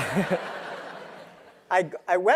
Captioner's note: laugh